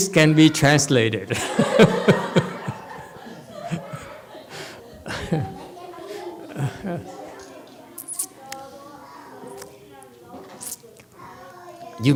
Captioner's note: laughs, audience laughs